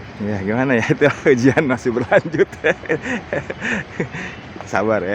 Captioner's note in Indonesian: tertawa